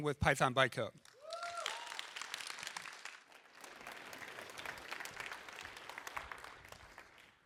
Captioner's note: applause